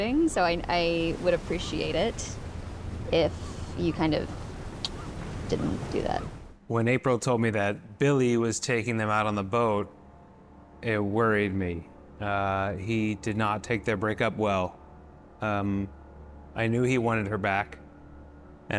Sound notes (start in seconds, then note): 4.3 sucks teeth